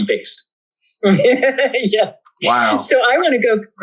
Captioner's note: laughs